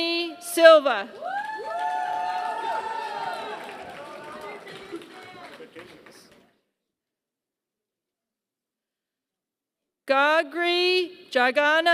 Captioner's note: applause